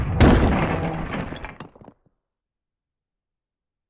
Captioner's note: explosion